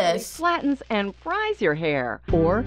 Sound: voice-over

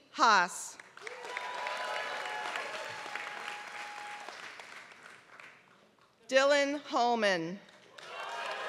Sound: applause; applause

